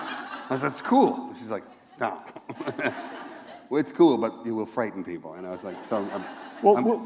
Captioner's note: laughter